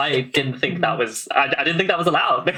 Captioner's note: laughing; laughs